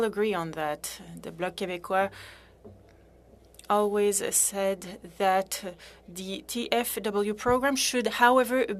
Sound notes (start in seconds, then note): 5.7 speaking French